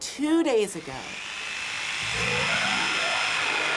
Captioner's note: power saw cutting